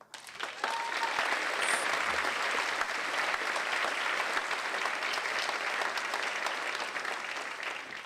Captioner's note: applause